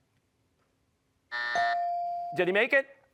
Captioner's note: bell dings; buzzer